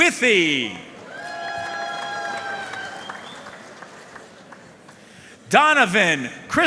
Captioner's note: audience cheering and applauding